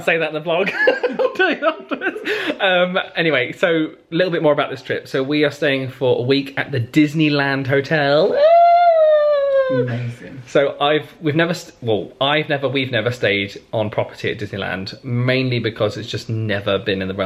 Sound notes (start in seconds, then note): 0.7 laughs; 8.2 squeals